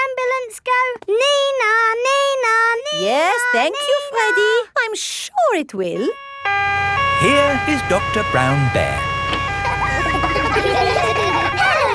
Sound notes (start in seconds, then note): 6.0 siren wailing; 10.0 kids laughing